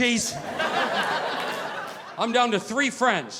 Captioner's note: audience laughing